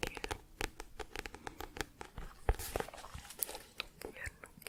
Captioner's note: tapping on book